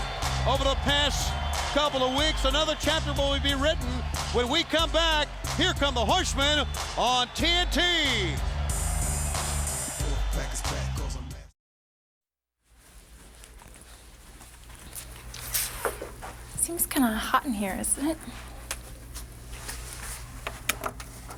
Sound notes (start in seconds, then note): 8.5 upbeat music; 12.6 feet shuffling